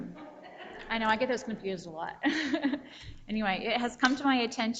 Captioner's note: chuckles